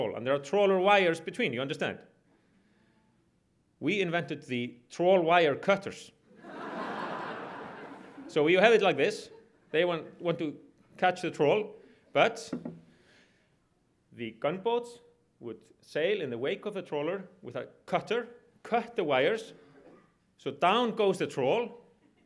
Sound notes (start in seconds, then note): 6.4 audience laughs